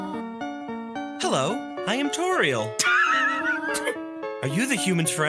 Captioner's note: laugh